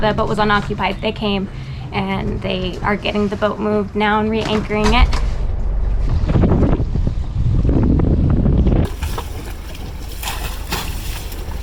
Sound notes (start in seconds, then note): 7.1 water splashing